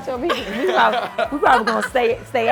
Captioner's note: and waiter laughing